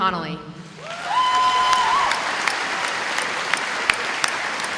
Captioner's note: audience applauding